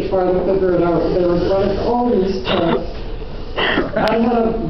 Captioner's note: laughter